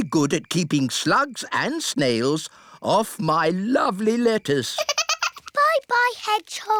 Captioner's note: giggles